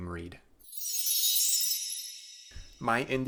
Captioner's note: chime sound